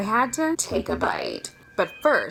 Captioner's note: digital voice